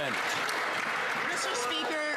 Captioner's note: some Applause